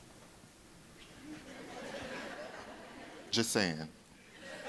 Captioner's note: audience laughing